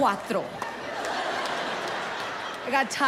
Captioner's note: audience laughing